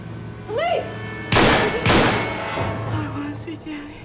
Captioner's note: gunfire pops